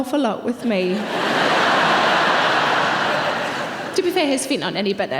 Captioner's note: audience laughing